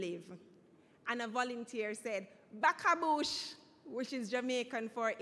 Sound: speaking in foreign language

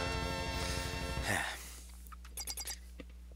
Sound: breathing

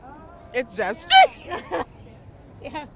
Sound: laughing

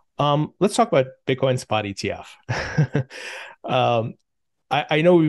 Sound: laughs

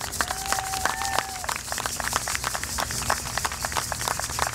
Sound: audience applauding

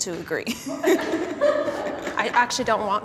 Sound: group laughing

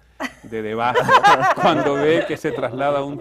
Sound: risas

